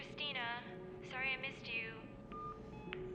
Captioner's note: none